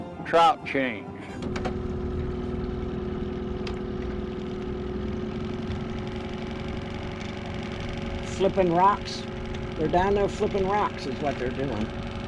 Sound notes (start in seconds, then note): 4.8 boat engine running